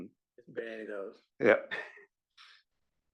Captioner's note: laugh